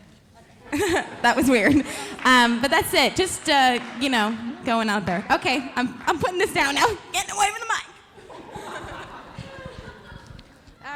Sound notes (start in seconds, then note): 0.7 laughing; 8.2 audience laughing